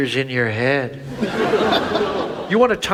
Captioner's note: audience laughs